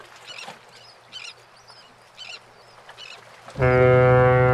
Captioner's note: wave noises and seagull screeching; A ship's horn sounds